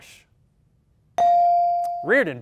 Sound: ding

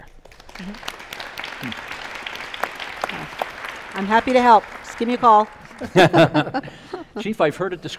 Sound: applause

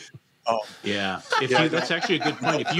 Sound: laughs

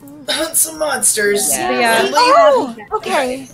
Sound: overlapping sounds of excitement

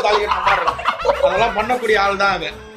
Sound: laughs

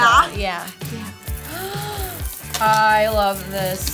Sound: laughs; gasps

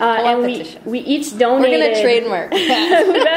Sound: voiceover; laughter

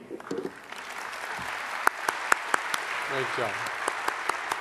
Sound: audience applause

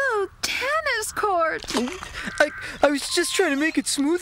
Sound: gulps

